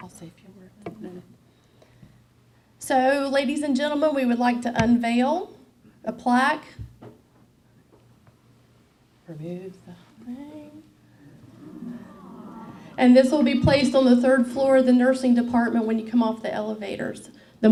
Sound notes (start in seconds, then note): 11.2 awing